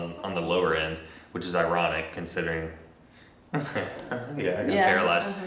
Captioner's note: chuckles